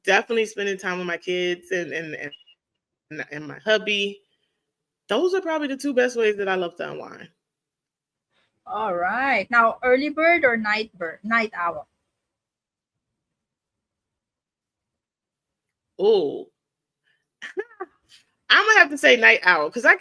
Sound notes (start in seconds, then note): 12.2 audio cuts out